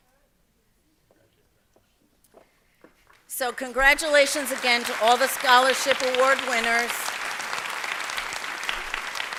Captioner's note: applause